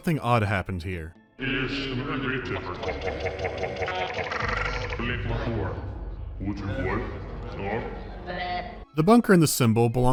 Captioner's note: loopy gibberish